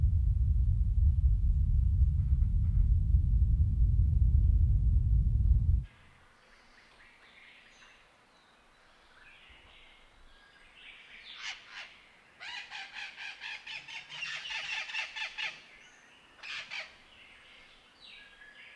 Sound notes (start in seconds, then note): 7.4 birds calling